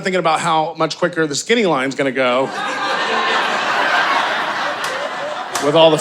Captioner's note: audience laughing